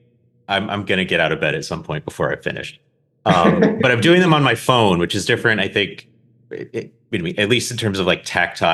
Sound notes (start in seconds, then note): 3.3 laughs